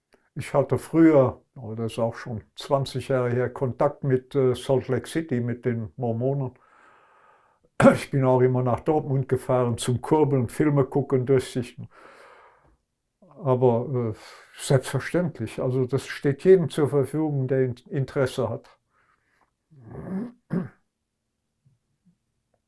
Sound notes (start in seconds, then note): 19.8 coughing